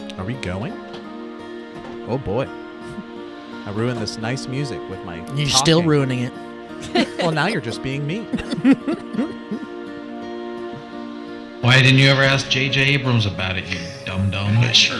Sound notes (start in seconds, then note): 6.8 laughs; 11.0 laughs